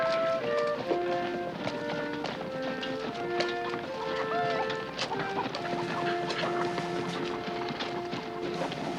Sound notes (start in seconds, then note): 4.1 chicken clucking